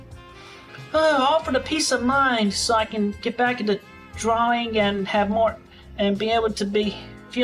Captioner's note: sigh